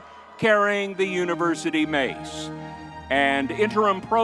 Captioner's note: crowd cheering